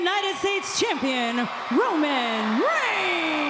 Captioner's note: fans clamoring